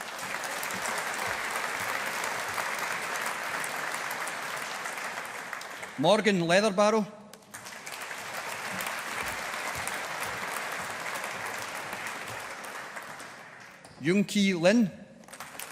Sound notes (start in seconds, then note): 0.0 audience applauding